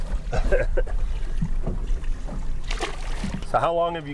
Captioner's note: laughing